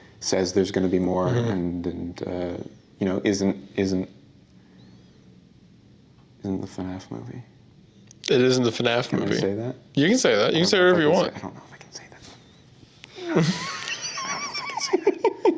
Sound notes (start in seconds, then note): 11.4 whispers; 13.2 laughing